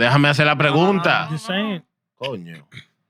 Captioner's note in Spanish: Hablando en idioma extranjero